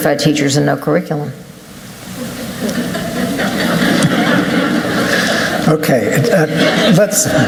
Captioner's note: laughter